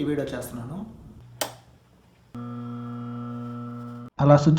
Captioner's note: motor hums after power ON